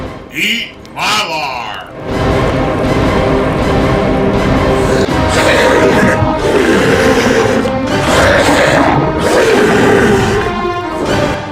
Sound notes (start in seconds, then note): 1.9 dramatic music; 4.8 monster growling and roaring